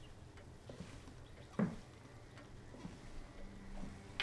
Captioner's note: footsteps tap